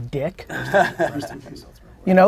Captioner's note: group laughter